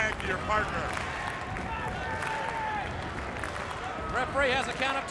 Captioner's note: crowd cheering